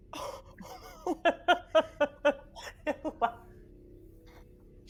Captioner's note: laughing